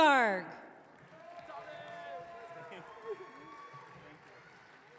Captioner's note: audience cheering